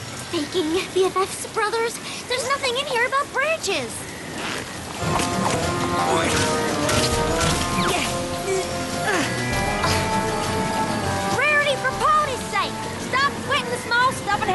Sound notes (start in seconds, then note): 5.0 boing! Boing!; 8.9 grunting